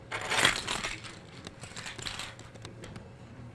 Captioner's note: keys rattling